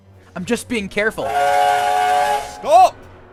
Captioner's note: skarloey blasts whistle